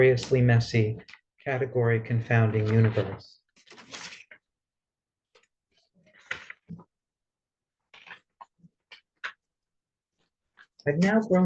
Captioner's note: rustling papers